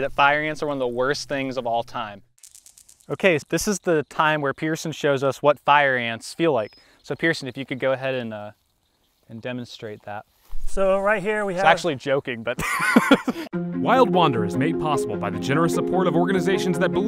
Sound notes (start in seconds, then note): 12.6 laughing